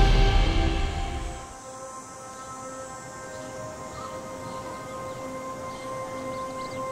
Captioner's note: light dramatic music; bugs trilling